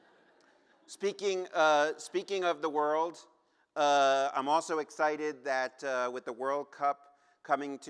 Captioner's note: laughter